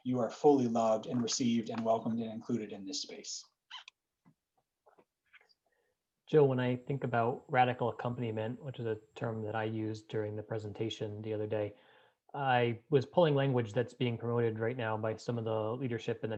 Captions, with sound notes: you are fully loved and received and welcomed and included in this space. (squeeks) - Joe when I think about radical accompaniment which is a term that I used during the presentation the other day I was pulling language, that's being promoted right now by some of the leadership